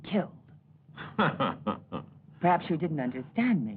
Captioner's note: laughs